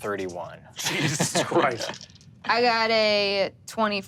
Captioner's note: laughs